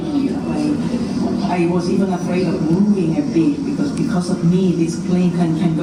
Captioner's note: female speaker in English